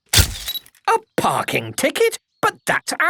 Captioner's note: camera click